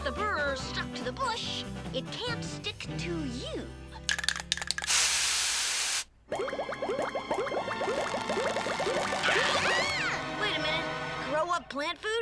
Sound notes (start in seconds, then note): 4.1 spray can rattling; 4.1 spray can spraying; 7.6 dramatic music; 7.8 burrs popping; 9.1 all scream